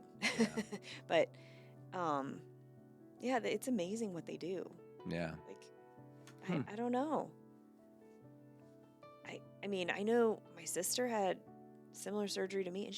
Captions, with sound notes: (laughs) But yeah, it's amazing what they do. Yeah. Like, I don't know. I mean, I know my sister had similar surgery to me,